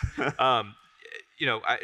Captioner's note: both laugh